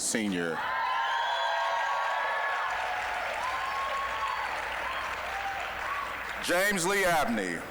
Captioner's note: applause, cheering